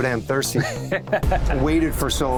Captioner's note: laughs